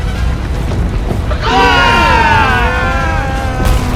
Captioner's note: everyone screams in unison